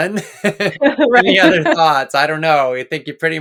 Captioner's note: both laughing